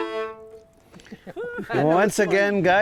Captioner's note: players chuckling